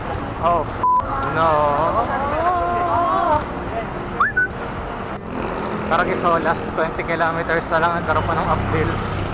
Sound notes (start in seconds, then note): 4.2 whistles